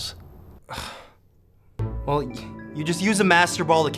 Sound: scoffs

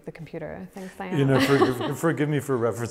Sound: laughs

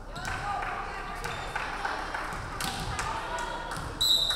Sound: crowd clapping; referee whistling

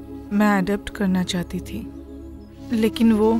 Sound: none

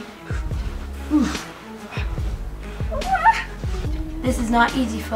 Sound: loud gasping and wheezing

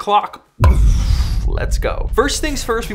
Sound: explosion

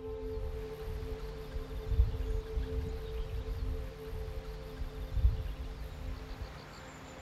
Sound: wind whirring; birds chirping

